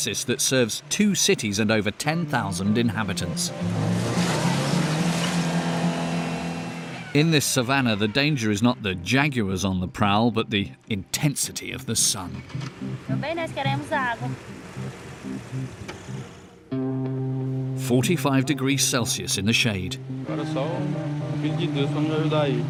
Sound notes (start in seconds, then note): 13.1 Portuguese spoken audio; 20.2 Portuguese spoken audio